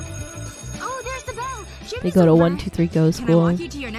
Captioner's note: bell rings